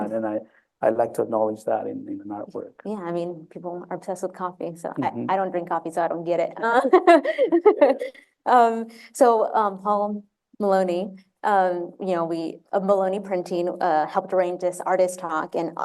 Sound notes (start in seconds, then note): 6.7 laughter